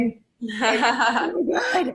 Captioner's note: laughing